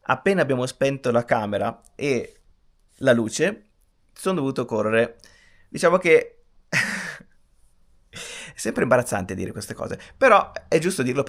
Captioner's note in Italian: risate